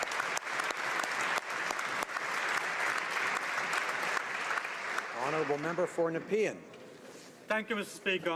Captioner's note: applause